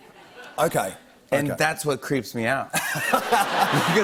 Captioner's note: laughter